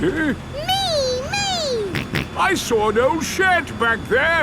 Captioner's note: snorts